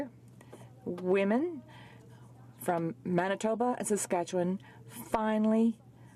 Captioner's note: speaking french